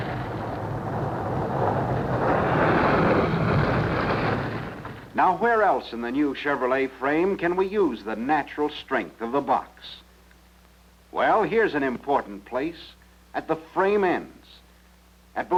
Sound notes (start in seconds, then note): 2.9 car engine revving